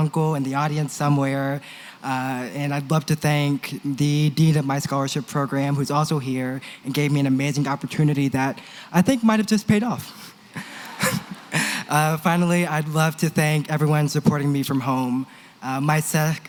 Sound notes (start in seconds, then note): 10.9 laughter